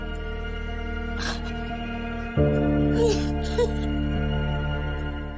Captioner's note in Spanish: Sollozos